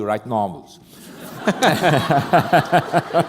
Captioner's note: laughter